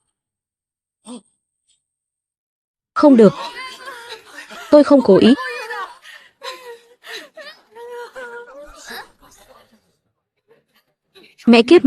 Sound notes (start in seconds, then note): 7.0 tiếng cười